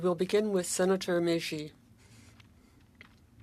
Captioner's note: speaking French